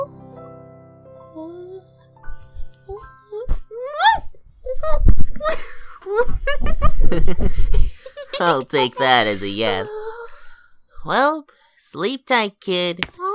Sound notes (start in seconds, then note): 5.2 chuckles